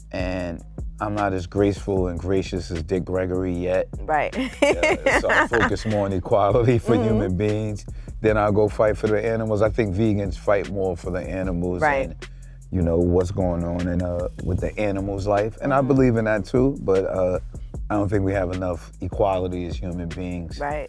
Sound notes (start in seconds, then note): 4.3 laughs